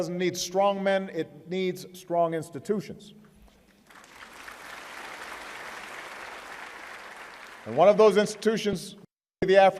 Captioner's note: applause